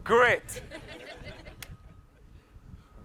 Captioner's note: laughs